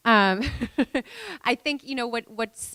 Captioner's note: laughing